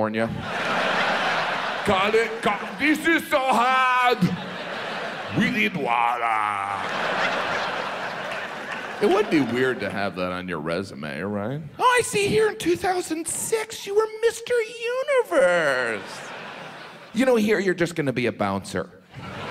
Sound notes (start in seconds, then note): 0.3 audience laughs; 1.8 Jim stutters; 4.2 audience laughs; 6.5 audience laughs; 15.3 audience laughs